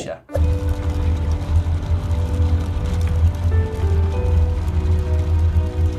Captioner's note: soothing music; gears hum